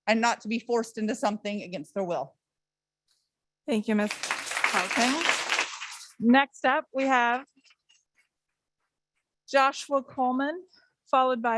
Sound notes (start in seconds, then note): 5.5 audience clapping